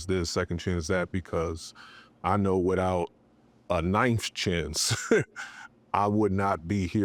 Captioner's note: laughs